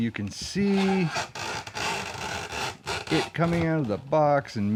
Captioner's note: plastic and cardboard screeching